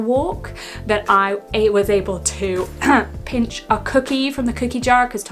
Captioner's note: coughing